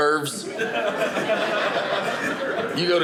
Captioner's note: audience laughing